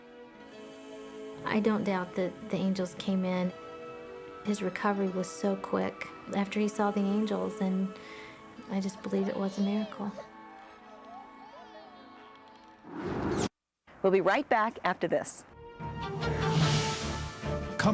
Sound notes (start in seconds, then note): 10.5 children laughing; 15.6 dramatic music